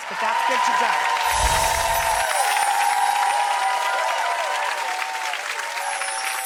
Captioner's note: audience cheering